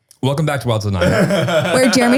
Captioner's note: laughter